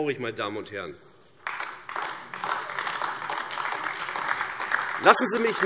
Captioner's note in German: Beifall AfD